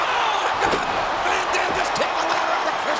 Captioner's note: mat thumping